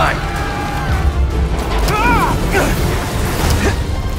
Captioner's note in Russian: толпа кричит